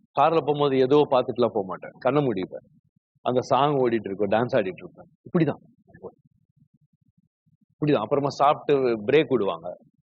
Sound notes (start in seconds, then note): none